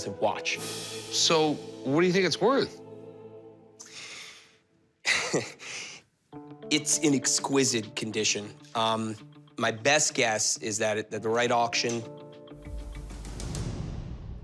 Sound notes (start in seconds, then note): 5.0 laughs; 12.4 tense music